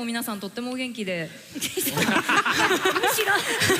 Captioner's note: laughter